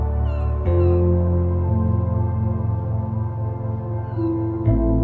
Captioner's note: bird squawking